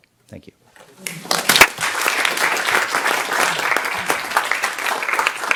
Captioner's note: audience applauds